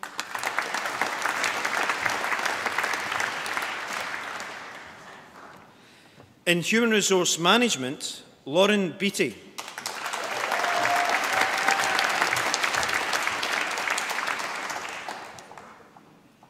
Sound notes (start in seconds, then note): 0.0 applause; 9.5 applause